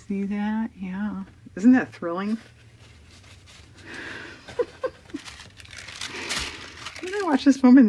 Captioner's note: laughs